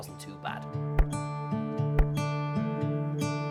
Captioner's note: knife chops; relaxing music